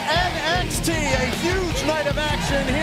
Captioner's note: crowd cheering